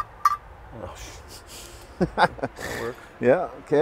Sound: laughs

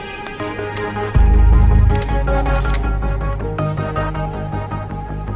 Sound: gun clicking

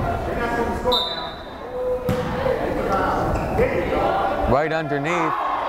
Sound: whistle blows

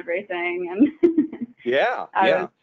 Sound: chuckling

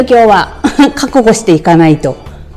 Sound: laughs

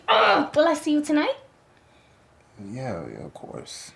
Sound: groan

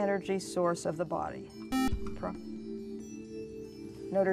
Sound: buzzer

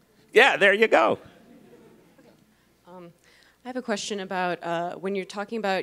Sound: laugh

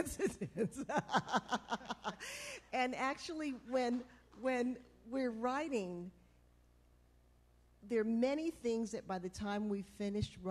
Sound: laughter

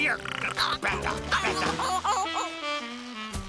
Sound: muffin whimpers

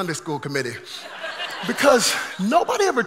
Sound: congregation laughing

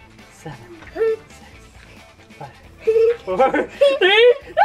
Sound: laughs

